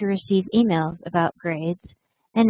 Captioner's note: Vietnamese